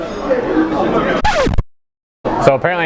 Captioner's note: record scratch noise